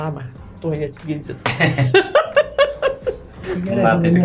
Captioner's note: laughing in Lithuanian